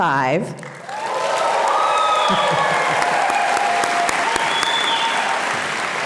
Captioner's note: audience applauding and cheering